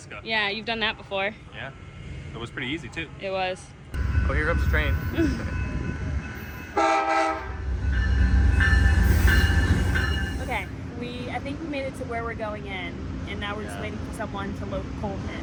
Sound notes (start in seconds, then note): 6.7 train whistle